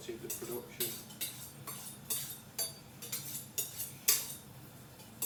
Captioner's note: knife squeaking